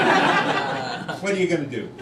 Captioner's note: crowd laughing